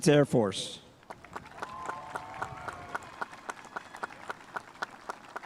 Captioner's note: spectators applauding